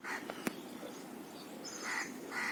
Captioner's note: wind blowing